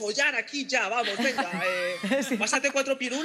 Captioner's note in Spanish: algunos ríen